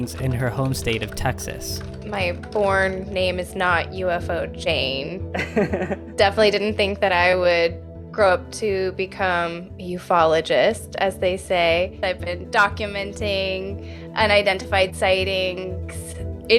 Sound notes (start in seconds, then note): 5.4 laughing